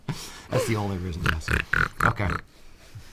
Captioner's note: oinks like pig